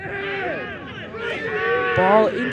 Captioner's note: shouting